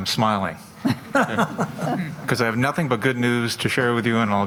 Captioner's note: laughter